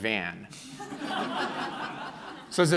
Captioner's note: laughing